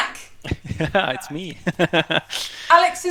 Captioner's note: chuckles